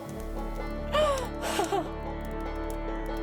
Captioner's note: crying in joy